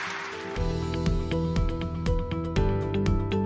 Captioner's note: cheers and applause